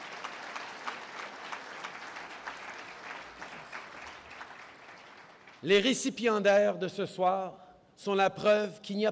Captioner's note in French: Applaudissements